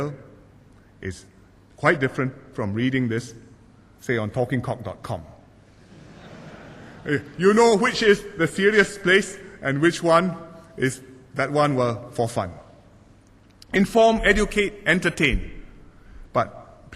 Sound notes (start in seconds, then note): 5.8 laughter